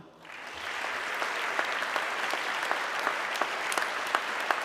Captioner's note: audience clapping